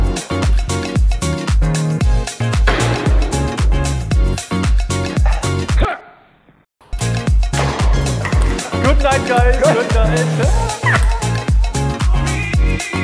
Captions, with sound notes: (upbeat music) (paddle clanging) - Hut! - Good night, guys, good night.